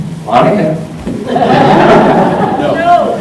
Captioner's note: laughter